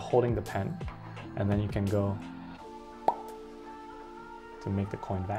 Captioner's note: makes popping noise